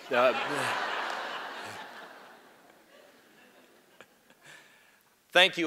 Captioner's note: laughter